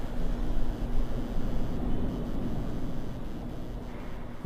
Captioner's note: buzzing